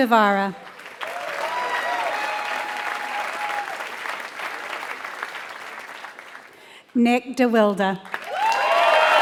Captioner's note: applause